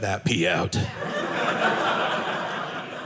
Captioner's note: audience laughing